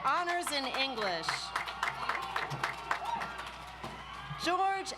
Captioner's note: audience applauds